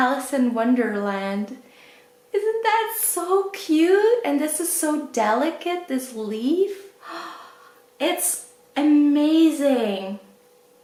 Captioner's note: gasps